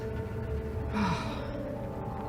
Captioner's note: sighs